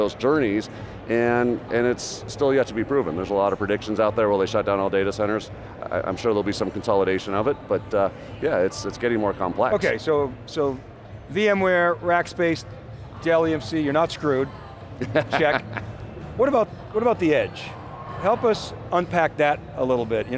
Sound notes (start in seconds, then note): 15.0 laughs